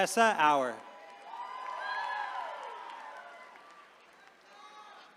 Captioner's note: attendees cheering